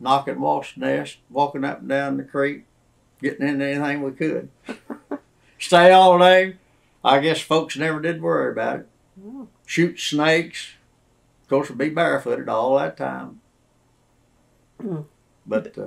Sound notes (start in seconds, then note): 4.6 laugh